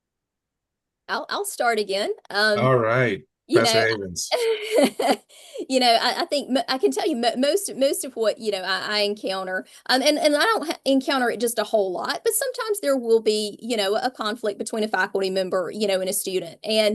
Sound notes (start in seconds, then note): 3.6 light laugh